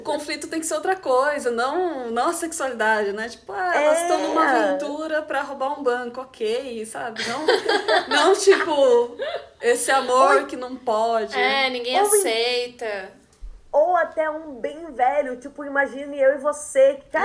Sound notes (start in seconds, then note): 8.9 guffaws